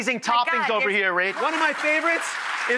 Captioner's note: audience applauds